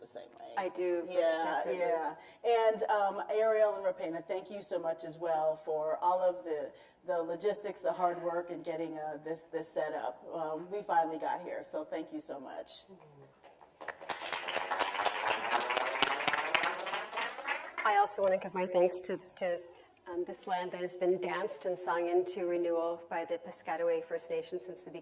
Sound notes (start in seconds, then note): 13.8 audience applauds along with speakers